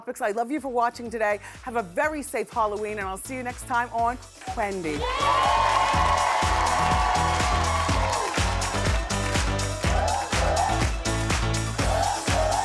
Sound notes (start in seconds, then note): 4.9 cheering; 7.3 upbeat music